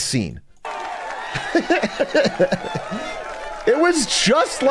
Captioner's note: laughs